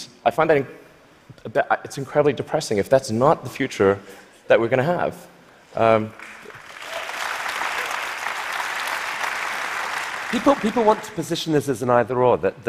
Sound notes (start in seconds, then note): 6.1 applause